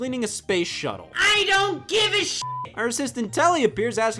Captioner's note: beeps